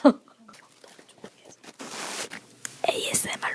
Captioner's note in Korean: 소곤